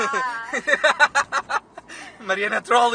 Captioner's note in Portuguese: Risos